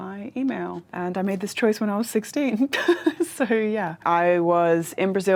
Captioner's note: laughs